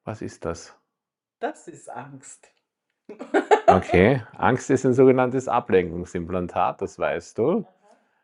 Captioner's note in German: gelächter